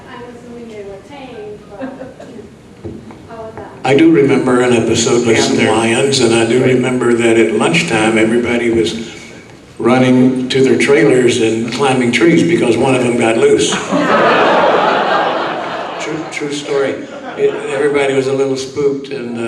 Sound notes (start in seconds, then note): 13.6 audience laughing